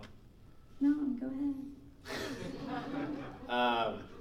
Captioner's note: laughing